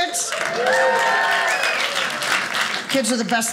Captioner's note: audience applauding